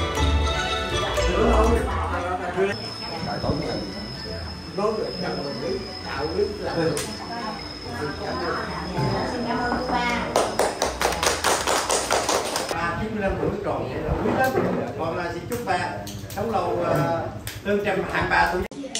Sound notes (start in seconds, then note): 10.2 everyone clapped